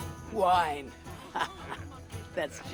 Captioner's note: laughs